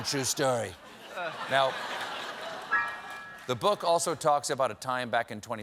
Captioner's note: laughter